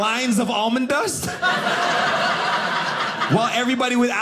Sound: audience laughing

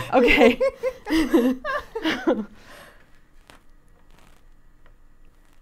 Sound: laughing

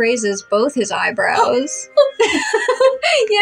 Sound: gasp; laugh

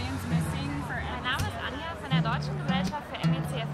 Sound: speaking German

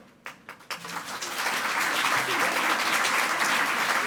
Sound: audience applauding

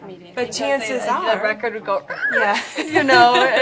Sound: laughs

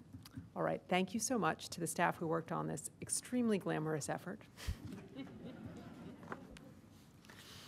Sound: laughter

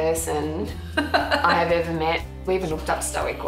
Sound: laughs

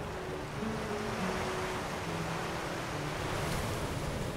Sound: waves crash

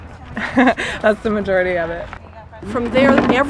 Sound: laughter

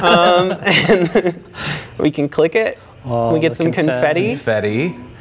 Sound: laughing

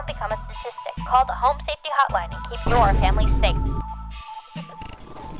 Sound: boom

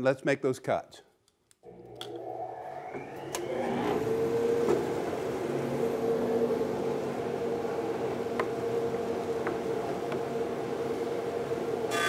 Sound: machine whirring

